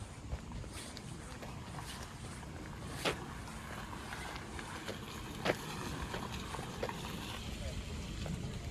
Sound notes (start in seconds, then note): 1.6 the car passing